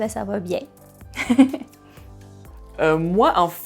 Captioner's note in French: rires